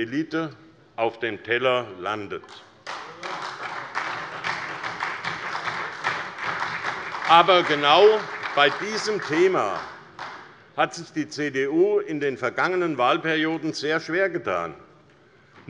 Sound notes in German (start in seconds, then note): 2.8 Beifall bei der SPD